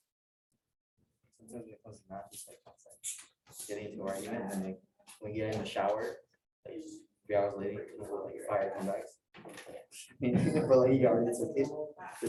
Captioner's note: background Discussion